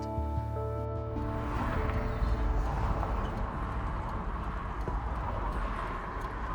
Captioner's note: anxious electronic music; vehicles whooshing; windshield wipers clacking